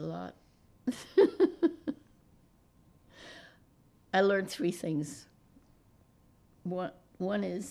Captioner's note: laughing